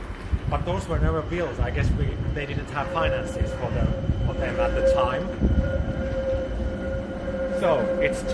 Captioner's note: tram sound passing